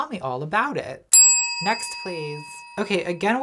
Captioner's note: bell rings